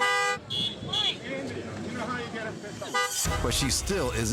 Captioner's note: horns honking